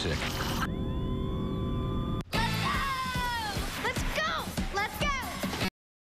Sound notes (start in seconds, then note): 0.1 siren wailing